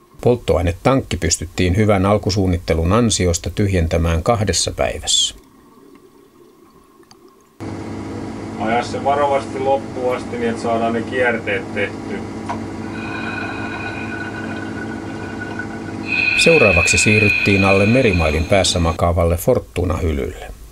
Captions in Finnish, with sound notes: Polttoainetankki pystyttiin, hyvän alkusuunnittelun ansiosta, - tyhjentämään kahdessa päivässä. Aja se varovaisesti loppuun asti niin, että saadaan ne kierteet tehtyä! [vedenalaisia ääniä] Seuraavaksi siirryttiin alle merimailin päässä makaavalle Fortuna-hylylle.